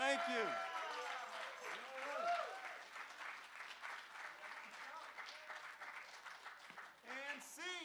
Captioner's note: applause